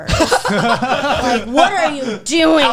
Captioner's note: guys laughing